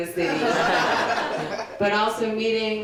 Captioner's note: crowd laughing louder